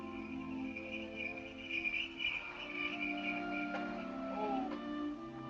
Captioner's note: sleigh bells ring